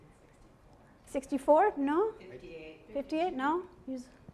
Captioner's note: voiceover